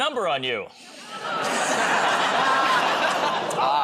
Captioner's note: laughter